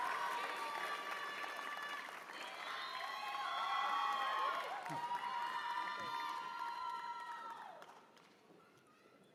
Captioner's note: cheers and applause